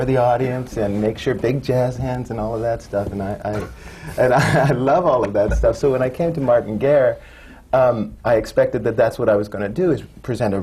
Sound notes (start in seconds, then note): 4.1 laughs